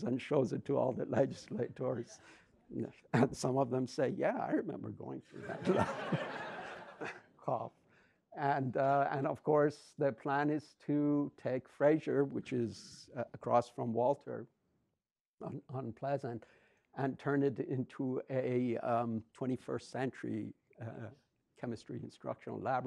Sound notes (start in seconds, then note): 5.4 audience laughs